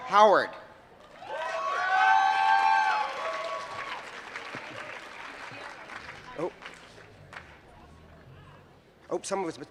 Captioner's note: applause